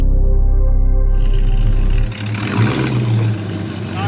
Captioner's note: engine revving